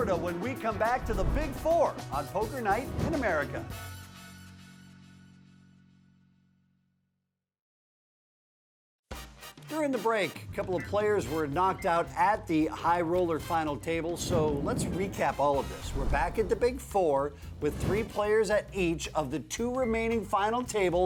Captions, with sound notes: when we come back to the Big Four on Poker Night in America. (Theme music) - (Voice over) During the break a couple of players were knocked out at the high roller final table, so let's recap all of this. We're back at the Big Four, with three players at each of the two remaining final tables,